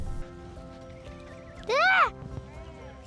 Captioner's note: birds chirping; shout